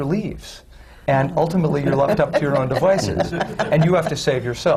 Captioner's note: laughter